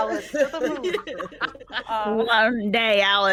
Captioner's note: people chuckling